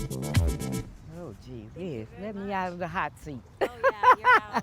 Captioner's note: laughs